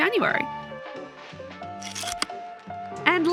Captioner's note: projector slide click